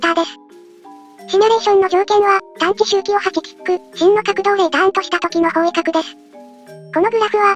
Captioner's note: tick